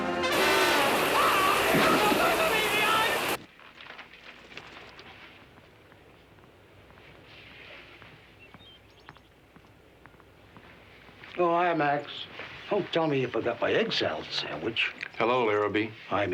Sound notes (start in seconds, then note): 0.0 yells; 0.2 water rushes; 8.0 birds chirp